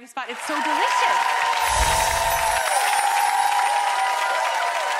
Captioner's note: crowd applauds